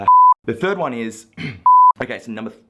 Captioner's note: beep; beep